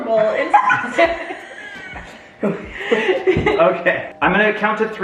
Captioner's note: family laughs